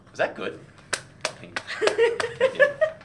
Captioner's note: applause